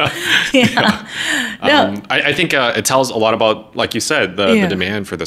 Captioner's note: laughing